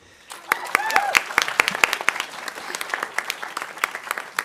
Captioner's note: audience applauding